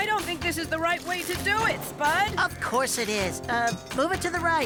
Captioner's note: none